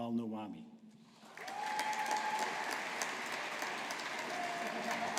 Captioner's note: audience applauding